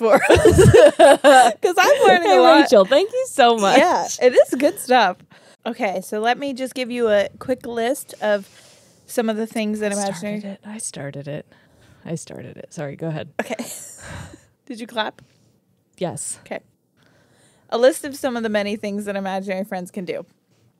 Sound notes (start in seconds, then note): 0.0 laugh; 14.1 chuckles